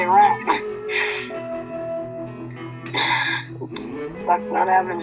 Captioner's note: sniffing